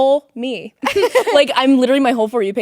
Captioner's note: both laughing